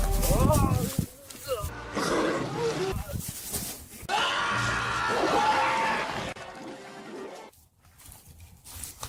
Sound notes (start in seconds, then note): 0.1 guy Grunting; 1.9 alligators roaring; 4.0 screaming